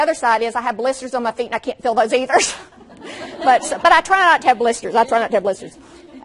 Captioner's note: laughs; audience laughs